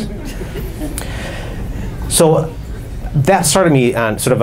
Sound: audience laughs

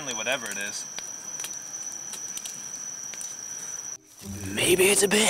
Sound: fire crackling

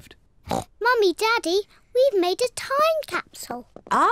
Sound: oinks

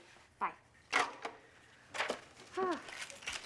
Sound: sighs

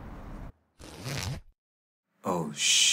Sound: zipper unzipping

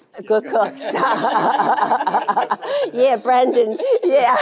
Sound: Jane laughing

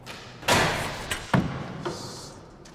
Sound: door clatters

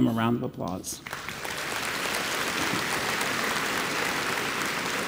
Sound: audience applauds

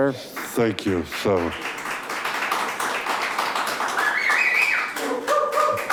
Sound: audience applauding

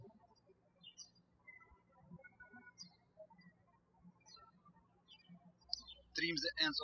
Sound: birds chirping

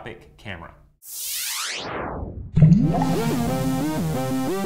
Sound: sound Effects

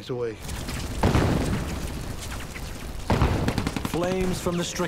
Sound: cannon shots exploding; rapid gunfire exploding

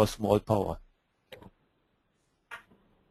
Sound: silence

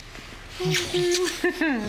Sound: kissing; chuckles

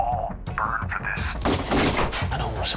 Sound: gunshots

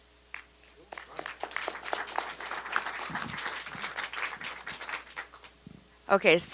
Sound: applause

